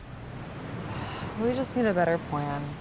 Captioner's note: waves crashing; Fern sighs